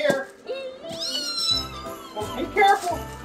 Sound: assistant screaming

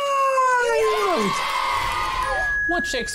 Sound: cheering

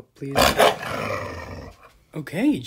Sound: barks and growls

